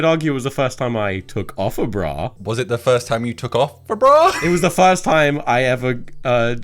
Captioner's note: laughs